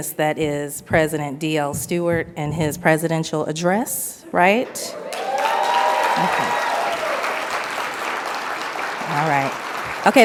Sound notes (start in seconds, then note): 4.9 audience applauds